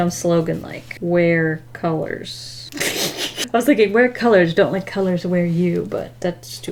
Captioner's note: laughs